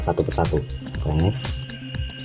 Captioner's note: click